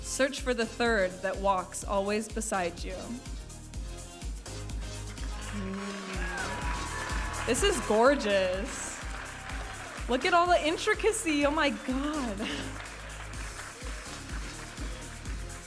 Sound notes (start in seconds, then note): 5.7 audience applauding and cheering; 12.8 upbeat music